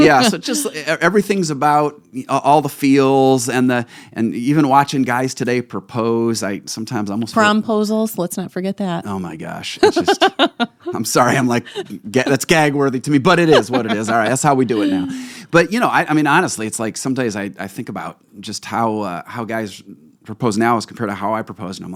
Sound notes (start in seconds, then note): 9.8 laughing